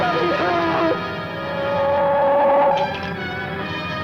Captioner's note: gun humming